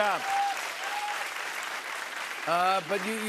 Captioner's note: cheers and applause